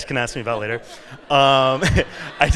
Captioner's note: laughter